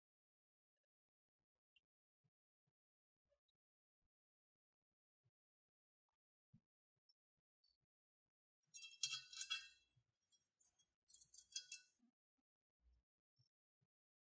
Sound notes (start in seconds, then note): 2.8 metal noise from clamp on the driveshaft